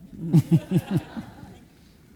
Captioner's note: audience laughing